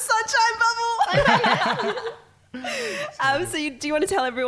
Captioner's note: laughing